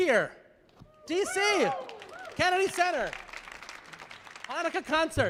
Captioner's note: audience applauding